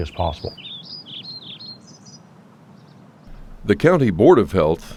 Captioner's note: birds chirp